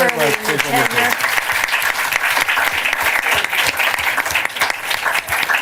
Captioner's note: applause